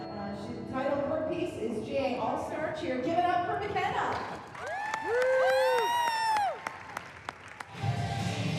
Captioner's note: cheering; upbeat dance music plays